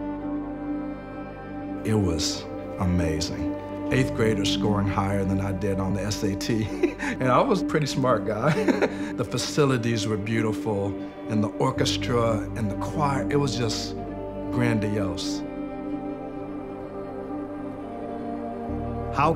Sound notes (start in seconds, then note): 6.6 laughs; 8.4 laughs; 15.8 slow orchestra music notes